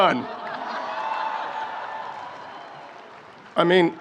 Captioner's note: audience laughs and cheers